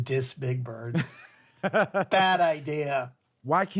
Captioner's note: laughter